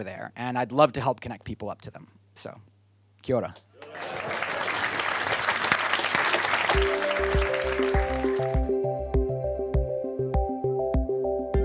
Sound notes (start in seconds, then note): 3.8 audience applaud; 6.7 engaging music